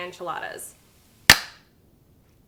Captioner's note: clap